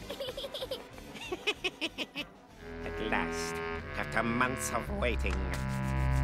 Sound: evil chuckle

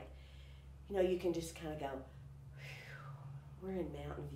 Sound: sighs

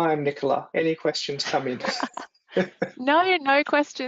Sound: laughs

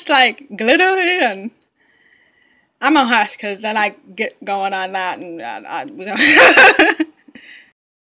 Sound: laughs

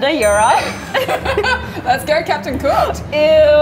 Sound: laughing

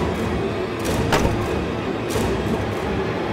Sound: door slams

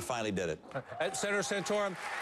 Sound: applause

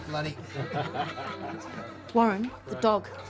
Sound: laughter; distant barking

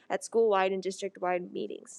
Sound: none

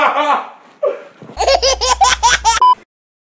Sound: laughter baby

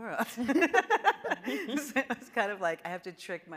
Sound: panelists laughing

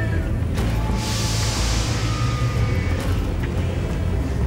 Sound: machine whirring

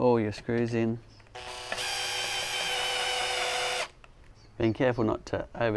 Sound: electric drilling noise

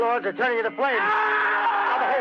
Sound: screams and unearthly shrieks

